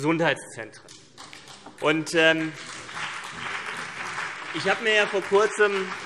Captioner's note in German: Beifall CDU und BÜNDNIS 90/DIE GRÜNEN